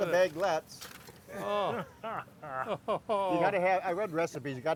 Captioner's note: men laugh